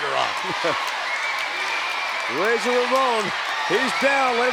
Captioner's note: laugh